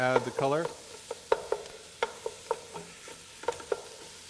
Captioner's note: sound of wooden spoon hitting metal pot